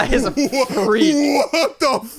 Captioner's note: laughs